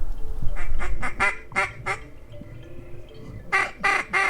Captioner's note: ducks honking